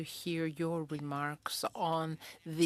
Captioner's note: speaking in French